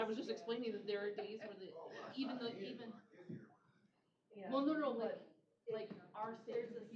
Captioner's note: off-mic chatter